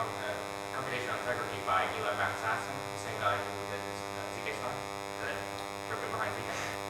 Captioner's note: speaking off mic